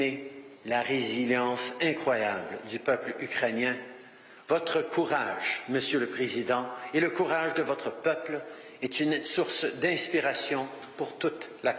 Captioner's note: speaking French